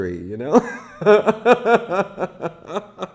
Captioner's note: laughs